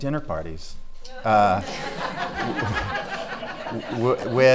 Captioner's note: laughing